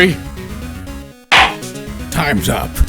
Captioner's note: gavel slams!